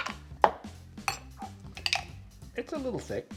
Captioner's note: clinking